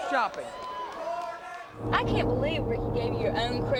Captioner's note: crowd chatter